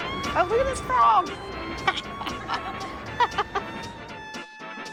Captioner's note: laughs